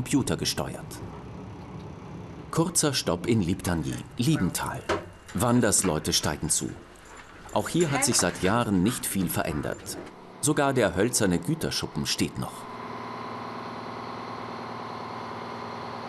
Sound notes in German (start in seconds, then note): 12.8 Motorenrattern